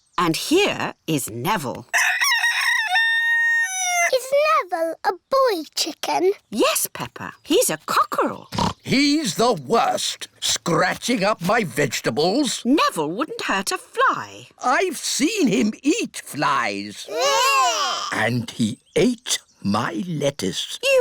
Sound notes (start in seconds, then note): 1.9 rooster crows; 8.5 oinks